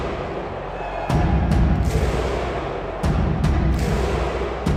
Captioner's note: crowd cheering